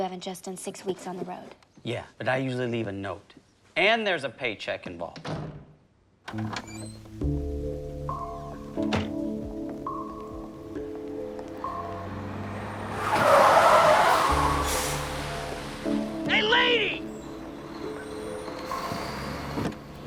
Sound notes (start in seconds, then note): 6.6 dramatic music; 13.1 tires screech